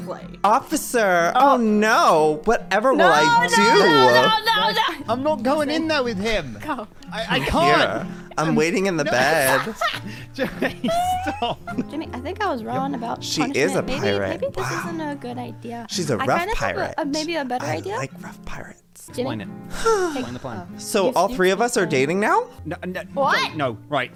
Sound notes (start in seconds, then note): 7.2 laughing; 7.2 laughs; 19.7 sighs